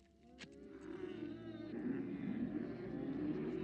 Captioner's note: camels groaning